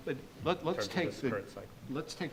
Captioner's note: mumbles